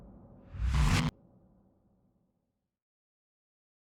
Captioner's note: air wooshing